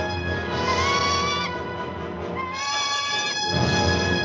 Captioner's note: bird squawking